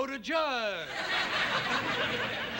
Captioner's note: laughter